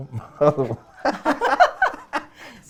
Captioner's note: laugh